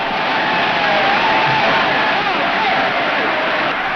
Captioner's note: crowd cheers